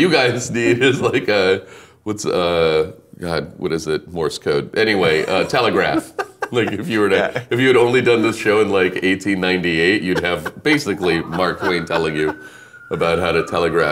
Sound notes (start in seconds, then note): 7.6 laughing